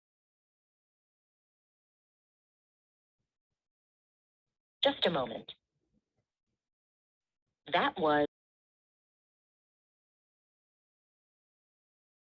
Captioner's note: muted